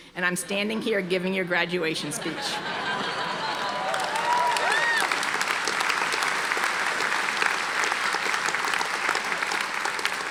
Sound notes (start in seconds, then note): 2.1 audience laughing; 3.0 audience applauding